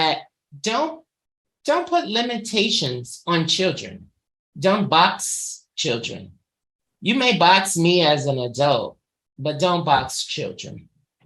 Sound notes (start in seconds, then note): none